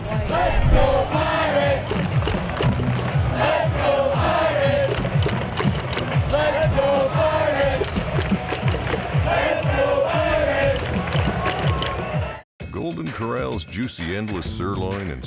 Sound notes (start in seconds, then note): 4.2 crowd chanting